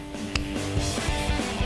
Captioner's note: snapping; upbeat music